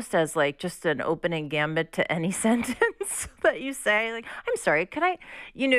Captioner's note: laughter